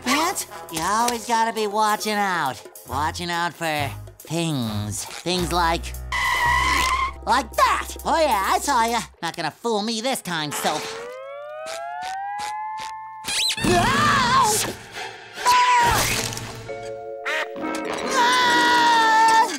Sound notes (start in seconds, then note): 6.1 screeching; 13.2 squeaking; 15.4 screaming; 17.6 grunting